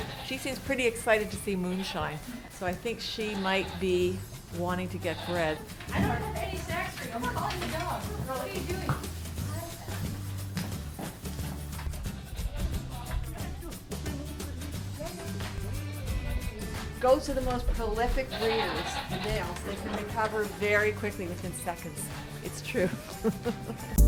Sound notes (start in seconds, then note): 5.7 more barn noises